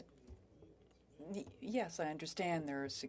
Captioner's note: speaking French